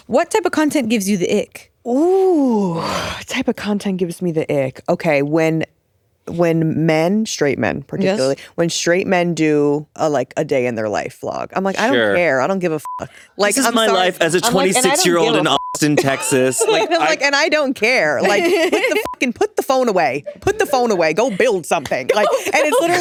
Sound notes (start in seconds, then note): 12.8 beep; 18.2 all giggling; 19.0 beep